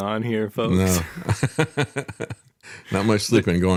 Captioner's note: laughs